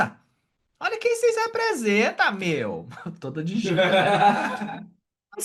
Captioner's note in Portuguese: Risos